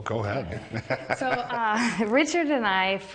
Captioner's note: laughing